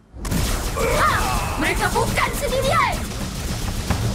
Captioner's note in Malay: berteriak